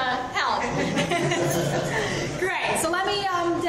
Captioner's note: everyone laughs